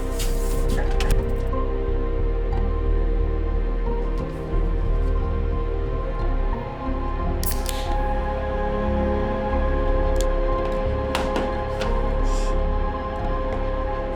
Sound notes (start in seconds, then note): 7.4 can pops; 9.4 tense music